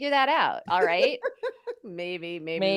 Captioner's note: laughs